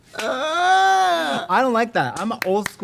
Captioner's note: Trixie groans; Katya claps - Everyone laughing